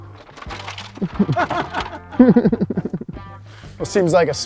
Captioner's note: laughing